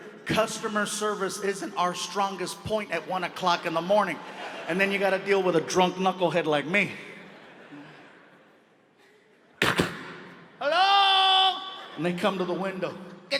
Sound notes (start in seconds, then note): 9.5 imitates hand banging